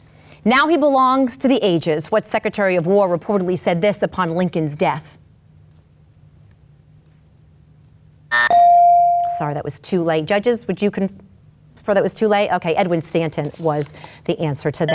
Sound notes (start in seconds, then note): 8.2 timer buzzes